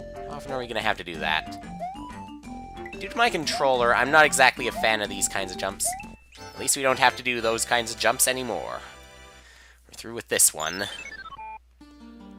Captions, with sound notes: How often are we gonna have to do that? Due to my controller, I'm not exactly a fan of these kinds of jumps. At least we don't have to do those kinds of jumps, anymore. (*inhaling*) We're through with this one.